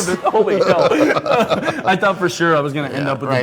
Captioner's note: both laughing